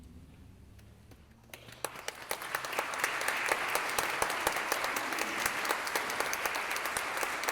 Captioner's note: applause